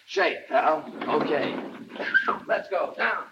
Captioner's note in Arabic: يضحك; صفارة